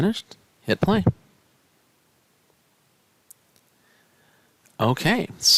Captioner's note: no Speech Detected